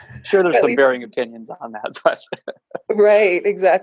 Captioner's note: laughs